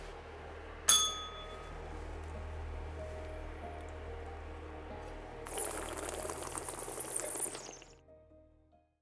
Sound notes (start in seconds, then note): 0.8 bell rings; 5.0 slurps